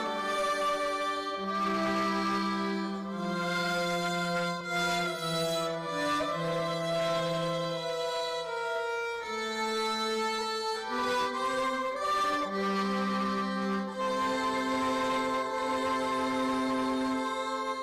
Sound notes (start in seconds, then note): none